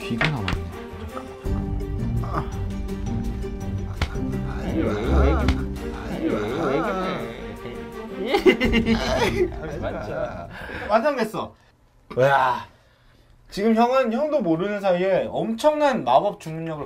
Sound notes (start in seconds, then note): 5.8 giggling; 9.3 laughing